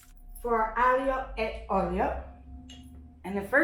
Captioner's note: speaks in Italian